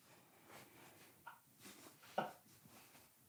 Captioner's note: stifled laughter behind camera